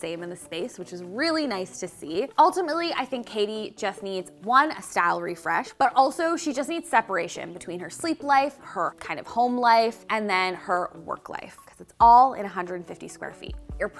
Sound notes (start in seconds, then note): none